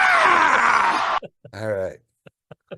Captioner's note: virtual attendee grunting